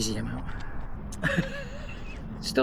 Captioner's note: laughter